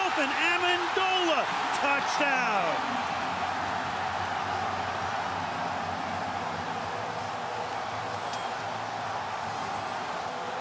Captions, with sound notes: Wide open, Amendola. Touchdown! [cheering]